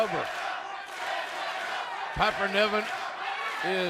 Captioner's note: fans chanting